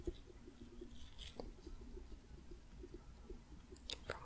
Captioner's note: light tapping